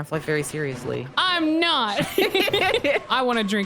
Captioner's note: both laugh